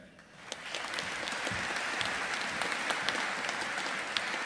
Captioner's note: audience applauding